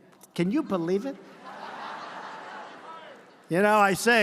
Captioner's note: laughter